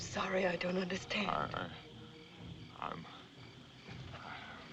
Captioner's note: Harry Muttering